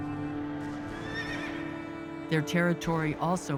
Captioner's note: horse neighs